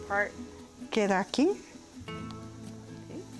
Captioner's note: speaking Spanish